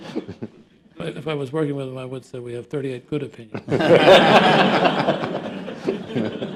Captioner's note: laughter